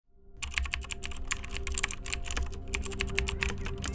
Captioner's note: typing sound